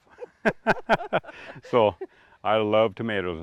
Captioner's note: laugh